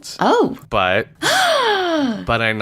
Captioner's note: gasps